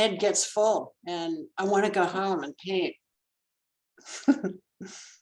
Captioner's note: laughs